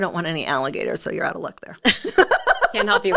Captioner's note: both laughing